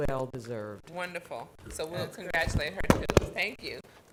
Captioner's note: mic popping